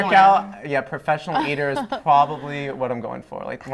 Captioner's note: laughter